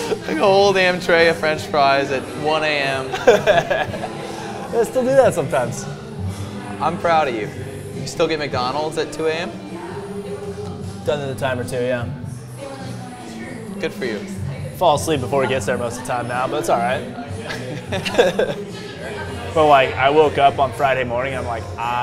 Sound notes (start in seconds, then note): 3.1 laughs; 17.4 both laugh